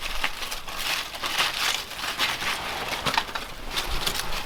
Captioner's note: bark rustling